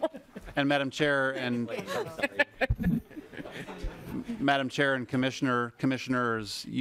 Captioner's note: laughing